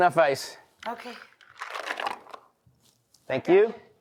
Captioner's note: ice clunking